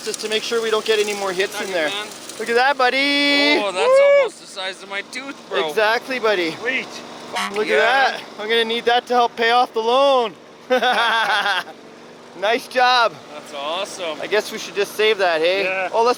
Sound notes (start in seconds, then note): 7.3 horn honking; 10.6 laughing